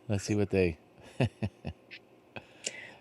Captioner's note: laughs